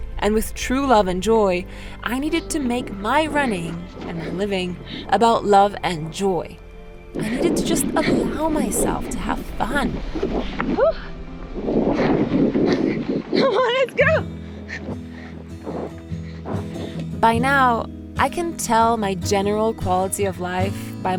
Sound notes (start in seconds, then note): 11.9 wind hissing; 13.3 laughs; 15.9 gentle strumming music